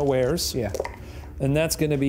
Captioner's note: dice clinks